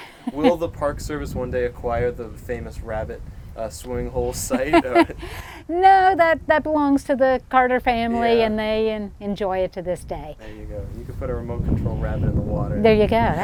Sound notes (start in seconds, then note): 4.4 laughs